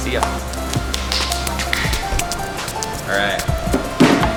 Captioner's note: claps rhythmically